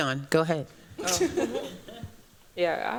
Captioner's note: chuckles